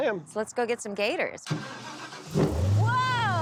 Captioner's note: engine starting